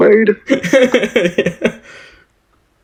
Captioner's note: still Cracking Up